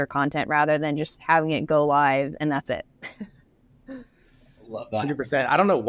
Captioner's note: laughs